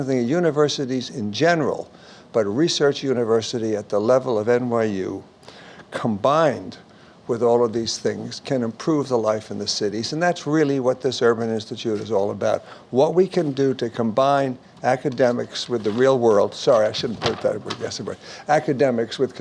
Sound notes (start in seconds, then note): none